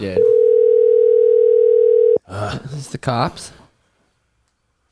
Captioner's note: phone ringing